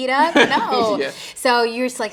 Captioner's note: interviewer chuckling